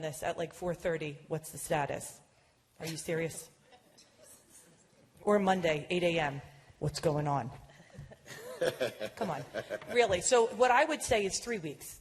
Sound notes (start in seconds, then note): 6.6 laughter